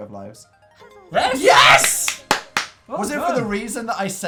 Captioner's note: claps